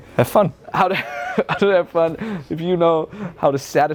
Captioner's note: laughing